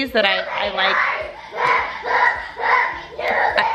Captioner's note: kid screaming